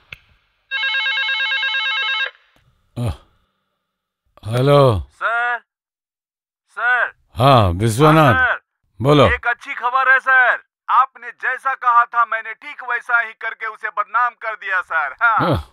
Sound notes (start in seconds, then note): 0.7 phone rings